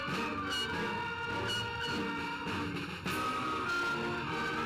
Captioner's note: horns blowing